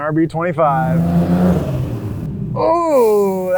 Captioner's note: car engine revving